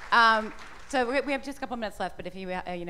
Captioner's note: applause